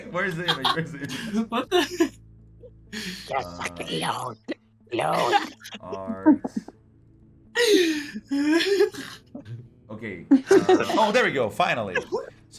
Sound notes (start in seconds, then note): 5.0 laugh; 10.3 laugh